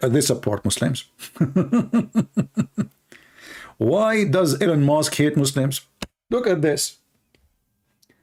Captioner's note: Ketawa